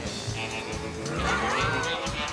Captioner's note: tires squeal